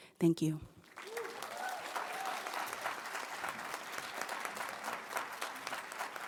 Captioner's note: audience applauding and cheering